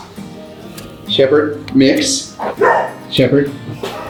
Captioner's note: dog barking